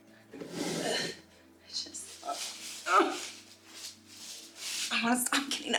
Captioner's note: blows raspberry; groaning sounds